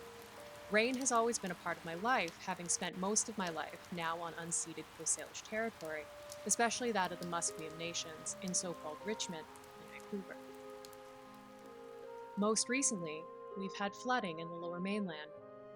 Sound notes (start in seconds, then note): 10.8 rain sounds fade